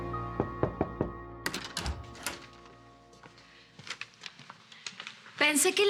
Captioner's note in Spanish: Toques en la puerta